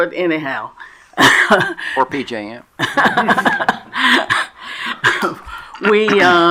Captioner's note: laughs